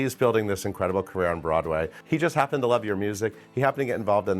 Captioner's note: none